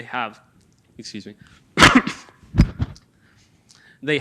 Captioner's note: coughs